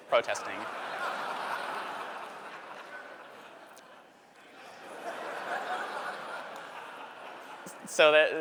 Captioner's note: laughter